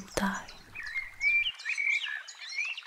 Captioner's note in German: Amselgesang